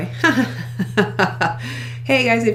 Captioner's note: laughing